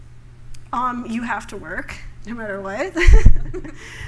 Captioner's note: laughter